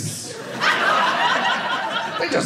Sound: audience laughing

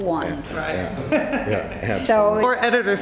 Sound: laughter

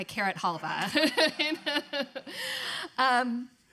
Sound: laughing

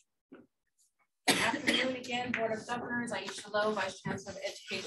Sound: speaking away from mic

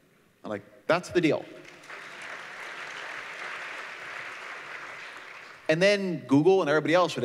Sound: applause

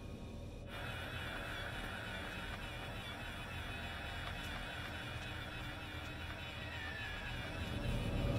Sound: remote control car driving noises

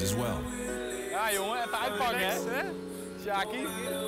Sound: speaks in foreign language

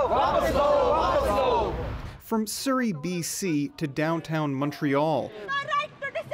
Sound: chants

